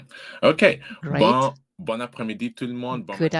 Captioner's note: speaking french